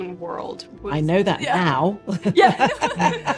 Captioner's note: laughs